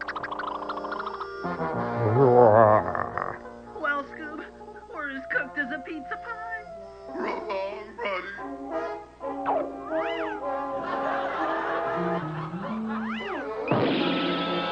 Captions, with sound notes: [SHIVERING] [SPRINGTRAP GROANS] Well scoob! We're as cooked as a pizza pie! -- So Long, buddy! [LAUGHTER] [CRASH]